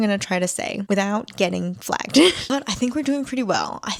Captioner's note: laughs